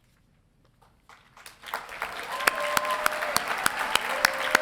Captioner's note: applauding